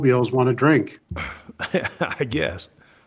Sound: laughs

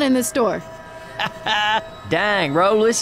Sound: laughs

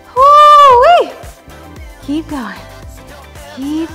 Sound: shouts

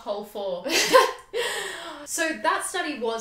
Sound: laughs

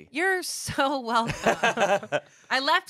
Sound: everyone laughs

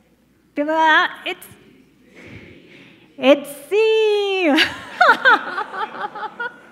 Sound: laughs

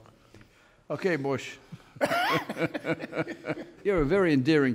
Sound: laughs

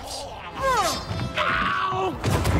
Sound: grunts

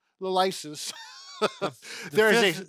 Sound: laughing

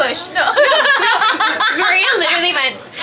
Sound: people laughing

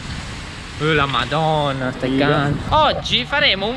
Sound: italian expressions of amazement

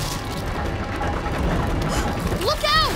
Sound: gasping

